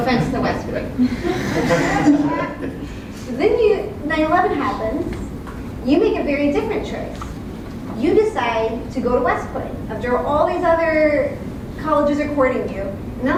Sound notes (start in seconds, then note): 1.0 laugh